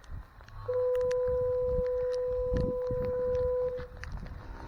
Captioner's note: fog horn sounds again